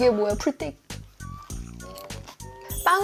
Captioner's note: chomp